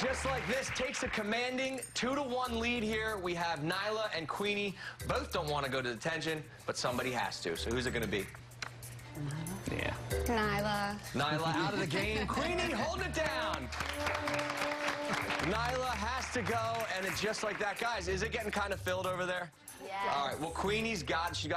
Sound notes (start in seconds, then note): 2.3 applause